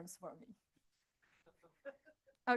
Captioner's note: laughter